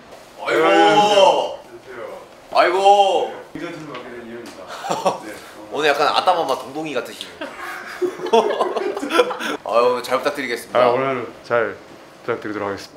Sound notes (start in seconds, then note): 7.3 laughing